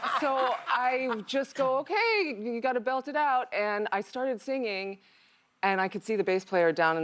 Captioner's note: laughter